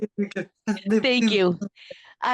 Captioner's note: laughter